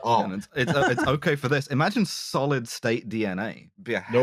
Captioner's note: laughs